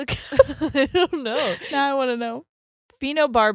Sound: both laugh

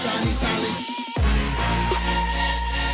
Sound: shushing

